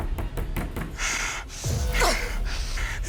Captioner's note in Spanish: Toques en la puerta